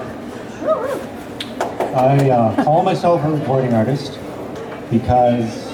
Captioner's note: clapping